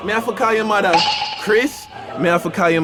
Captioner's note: echoing thud